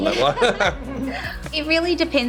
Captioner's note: both laughing